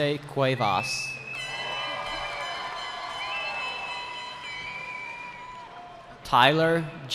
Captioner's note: cheering